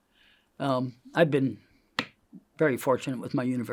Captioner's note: hand taps